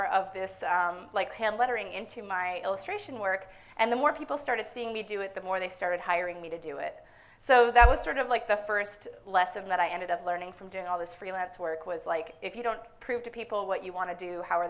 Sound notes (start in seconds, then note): none